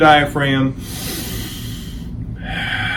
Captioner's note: inhales; exhales